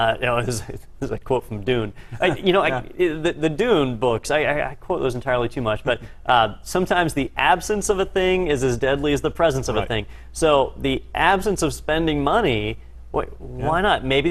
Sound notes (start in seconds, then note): 2.1 laugh